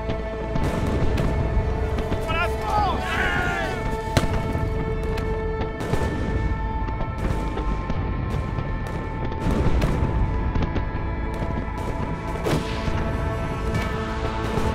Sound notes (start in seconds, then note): 0.5 gunshots; 2.3 screams of attack